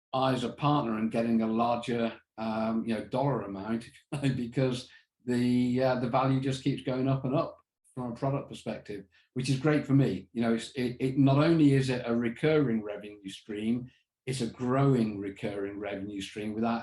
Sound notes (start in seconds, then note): 4.1 chuckles